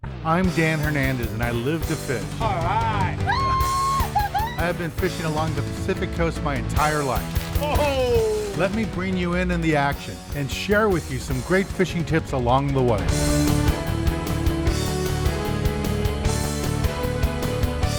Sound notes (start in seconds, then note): 7.5 man cheers; 12.7 upbeat music